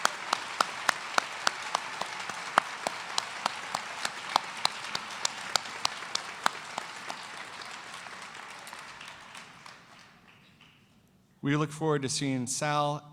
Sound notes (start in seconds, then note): 4.0 cheers and applause